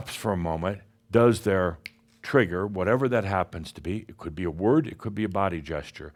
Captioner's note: snap!